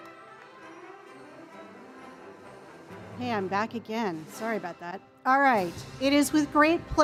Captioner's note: applause